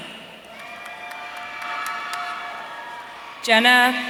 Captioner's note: audience cheering